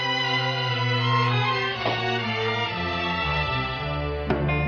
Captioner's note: door opening; door closing